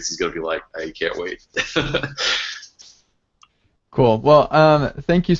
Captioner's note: laughing